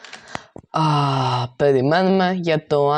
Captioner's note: gasps